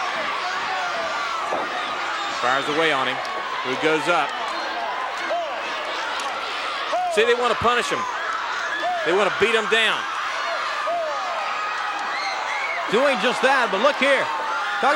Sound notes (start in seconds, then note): 1.4 fist thuds